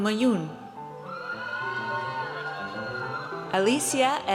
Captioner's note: audience cheers